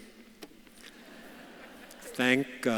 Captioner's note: audience laughs